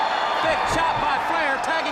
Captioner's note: crowd cheering